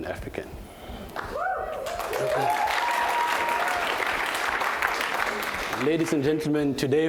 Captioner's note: applause